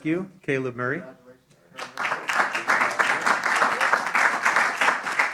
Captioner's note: applause